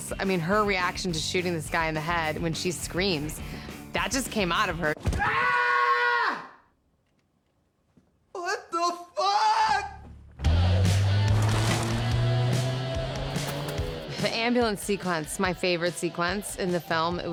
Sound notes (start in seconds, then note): 5.1 screams